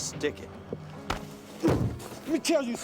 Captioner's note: Zac thuds